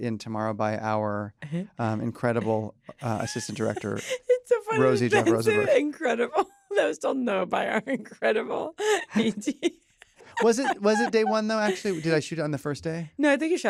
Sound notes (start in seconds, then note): 4.7 laughing